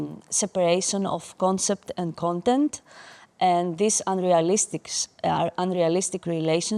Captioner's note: none